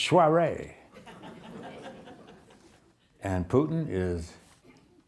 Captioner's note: audience laughing